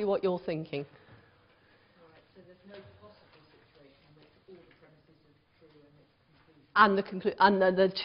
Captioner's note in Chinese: 無聲